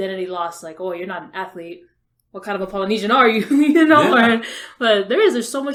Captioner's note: laughs